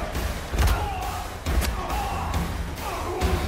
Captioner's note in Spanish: Grito